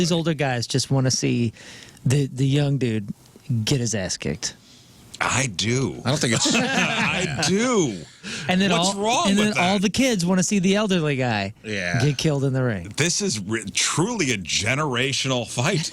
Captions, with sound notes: older guys just want to see the young dude get his ass kicked. I do. I don't think I-- (Laughter) I do. And then all-- What's wrong with that? And then all the kids want to see the elderly guy get killed in the ring. This is truly a generational fight.